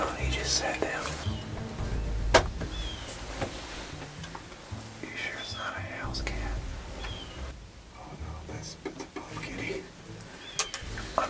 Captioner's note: whispering